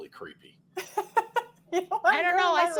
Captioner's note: laughs